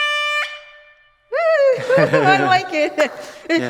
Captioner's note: cheers